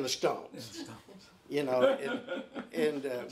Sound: laughing

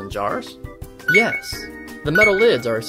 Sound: beeps

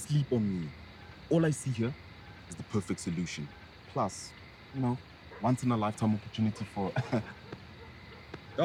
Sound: laughs

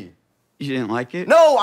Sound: in normal voice

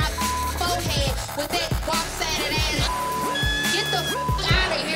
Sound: beep sound; beep sound

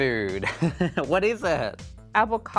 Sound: laughing

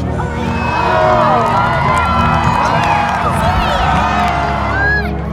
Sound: crowd cheering

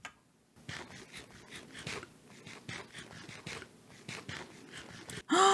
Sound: bread noises

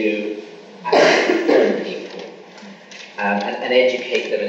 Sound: coughing masks speaker

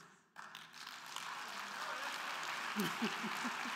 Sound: crowd clapping; chuckles

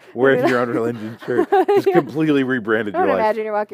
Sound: laughter

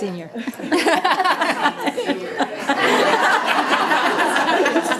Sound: people laughing

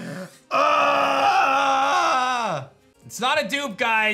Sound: grunts

